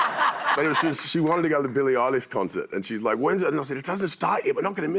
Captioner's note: laughter